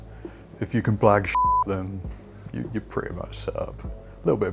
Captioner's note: beep